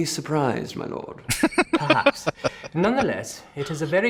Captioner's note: laughing